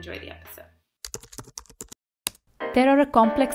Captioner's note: keys clicking